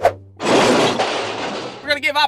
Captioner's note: thud, crashing noise